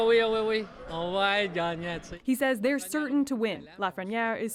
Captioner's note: speaking French